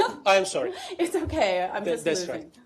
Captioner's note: laughter